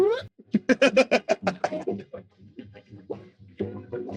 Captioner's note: laughing